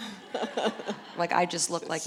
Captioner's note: audience laughing